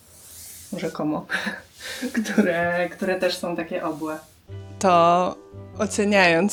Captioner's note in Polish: śmiech